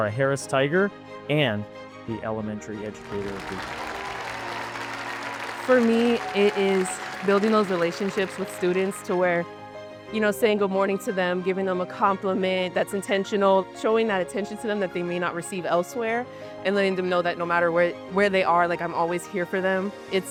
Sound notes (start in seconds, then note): 5.6 applause